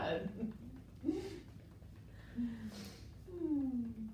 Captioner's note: chuckles; gentle tapping